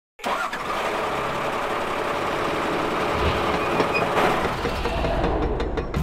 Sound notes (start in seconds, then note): 0.2 engine starts up